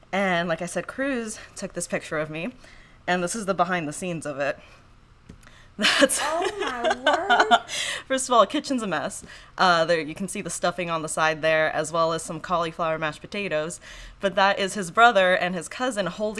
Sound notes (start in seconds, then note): 6.2 laughing